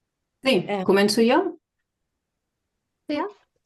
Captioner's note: speaking in Catalan